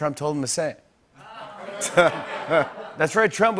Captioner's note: laughter